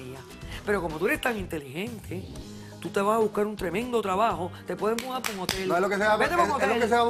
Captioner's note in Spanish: aplausos